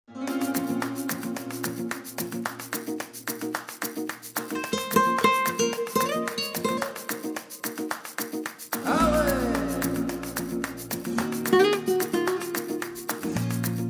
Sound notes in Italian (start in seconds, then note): 0.3 Applauso